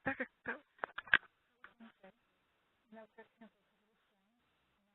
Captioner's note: indistinct chatter